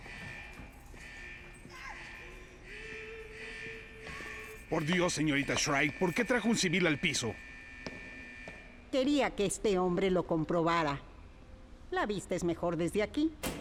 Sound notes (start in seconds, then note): 1.6 distant moaning, yelling